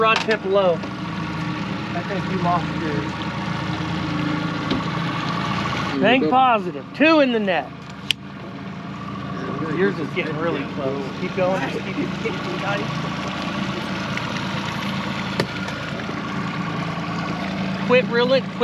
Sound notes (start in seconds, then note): 0.0 boat engine idling; 4.1 boat engine idling; 8.8 click; 10.3 boat engine idling; 13.3 boat engine idling